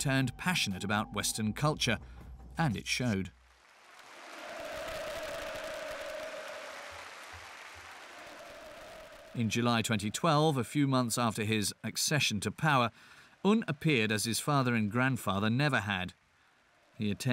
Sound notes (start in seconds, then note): 3.3 applauding